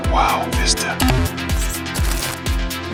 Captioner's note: Bill's PC shutdown